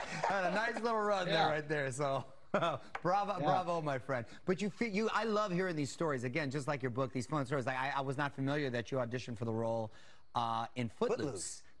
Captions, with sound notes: >> Ah, yeah. [ Laughs ] >> Had a nice little run, though, right there, so... Brava, bravo, my friend. But I love hearing these stories -- again, just like your book, these funny stories. I was not familiar that you auditioned for the role